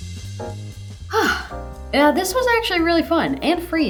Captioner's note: groovy orchestral music; sighs